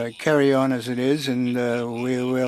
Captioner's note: speaking French